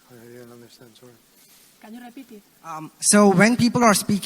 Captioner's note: mumbles in Foreign Language